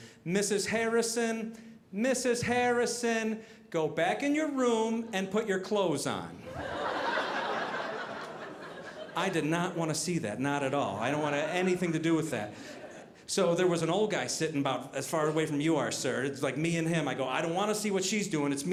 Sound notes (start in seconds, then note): 6.4 audience laughing